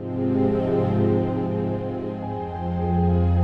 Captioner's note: none